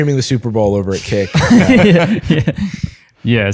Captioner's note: laughter